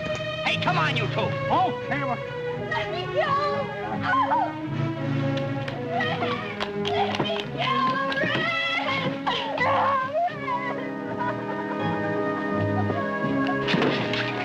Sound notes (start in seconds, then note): 4.6 shouts; 12.3 sobbing